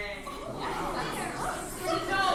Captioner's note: crowd murmuring